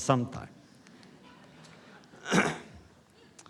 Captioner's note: laughter